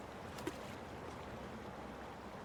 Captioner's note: water splashes